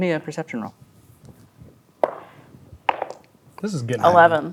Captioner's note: dice rolling